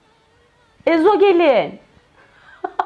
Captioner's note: laughter